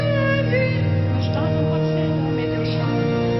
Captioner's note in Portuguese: murmurando